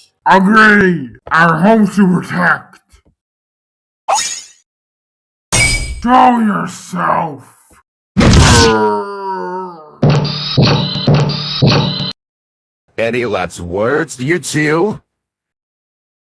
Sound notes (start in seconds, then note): 8.2 bam; 8.2 hurt noise; 9.9 King Bozo walking